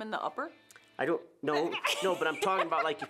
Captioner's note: laughing